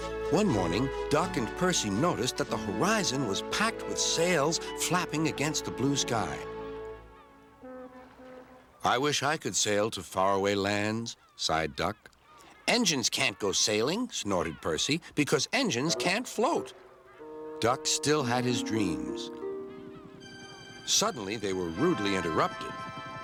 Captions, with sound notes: ONE MORNING DUCK AND PERCY NOTICED THAT THE HORIZON WAS PACKED WITH SAILS FLAPPING AGAINST THE BLUE SKY. - ( seagulls calling ) - ( ships bellowing ) "I WISH I COULD SAIL TO FARAWAY LANDS," SIGHED DUCK. "ENGINES CAN'T GO SAILING," SNORTED PERCY, "BECAUSE ENGINES CAN'T FLOAT." DUCK STILL HAD HIS DREAMS. SUDDENLY THEY WERE RUDELY INTERRUPTED.